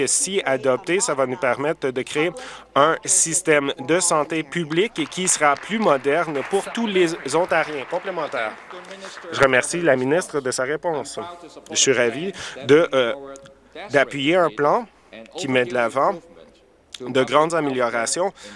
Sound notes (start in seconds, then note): 7.5 applause